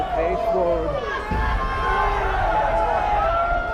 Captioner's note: crowd yelling